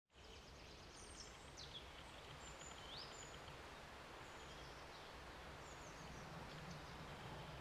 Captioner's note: birds chirping